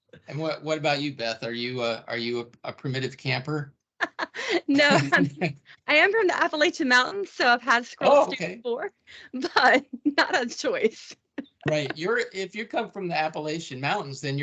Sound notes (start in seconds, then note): 4.2 laughing; 11.5 laughing